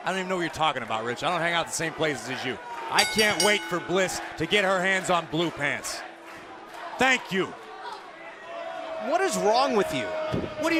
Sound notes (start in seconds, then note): 3.0 bell